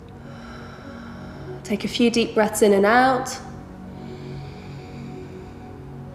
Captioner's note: heavy breathing